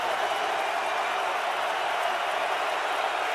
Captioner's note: crowd cheering